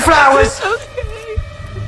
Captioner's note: crying